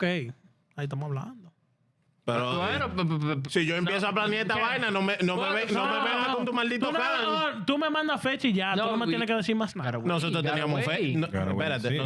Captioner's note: speaking In Foreign Language